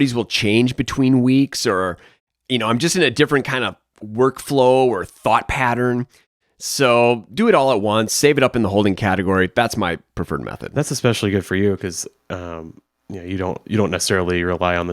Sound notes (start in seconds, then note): none